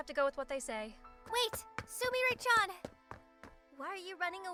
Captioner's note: footsteps